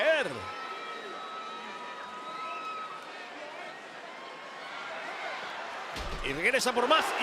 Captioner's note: applause